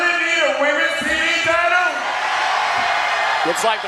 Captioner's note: audience cheers